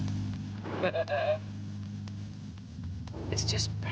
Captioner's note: chuckling